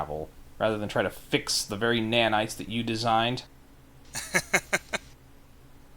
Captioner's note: laugh